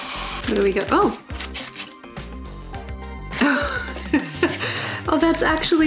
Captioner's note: laughs